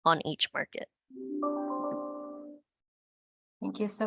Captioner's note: computer chimes